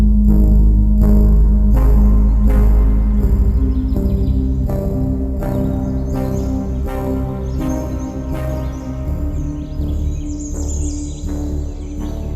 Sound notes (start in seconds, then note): 1.8 faint birds chirping; 11.2 birds chirping